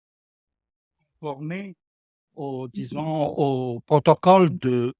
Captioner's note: man speaking French